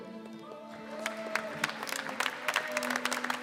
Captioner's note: applause